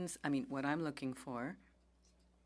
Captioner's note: speaking French